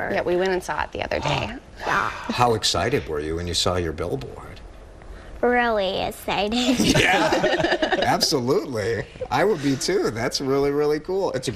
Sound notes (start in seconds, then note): 6.6 laughing